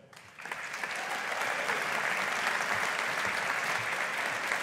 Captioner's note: audience applauding